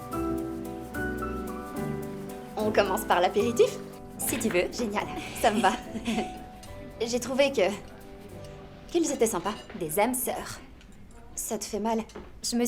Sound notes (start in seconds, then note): 5.1 laughing